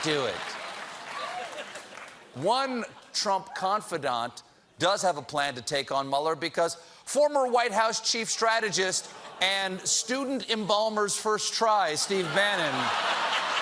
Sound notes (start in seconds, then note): 3.8 laughter